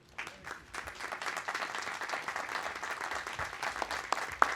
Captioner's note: audience applauding